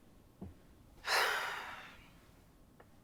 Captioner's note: sighs